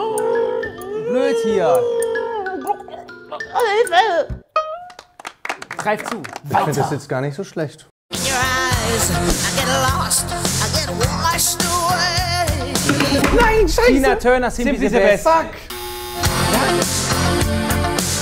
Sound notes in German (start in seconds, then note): 4.9 Applaus